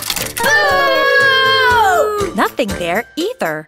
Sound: audience booing

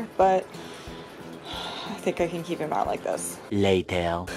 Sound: sighs

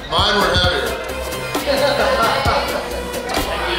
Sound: hahaha

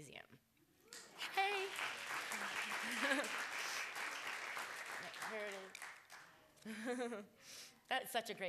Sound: applause

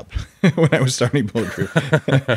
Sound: Adam laughing

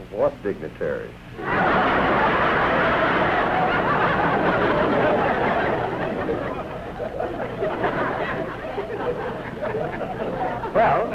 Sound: laughter

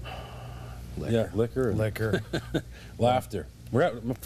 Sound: laughter

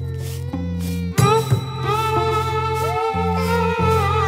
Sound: baby weeping

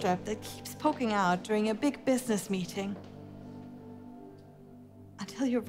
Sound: high-heeled footsteps

